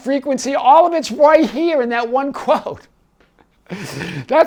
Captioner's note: giggling